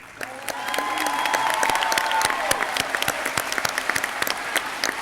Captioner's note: audience clapping